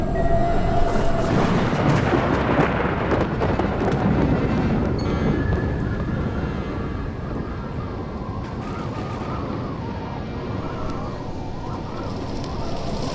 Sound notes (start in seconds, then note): 0.7 thunderclap; 4.7 accordion tense music and gale; 12.7 rain noise